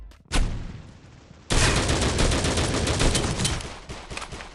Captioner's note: gunshots banging